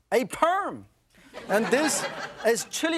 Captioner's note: laughter